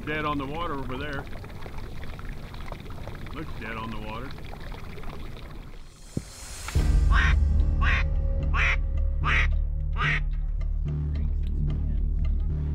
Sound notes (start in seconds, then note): 7.1 duck calls